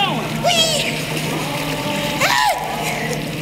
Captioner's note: screams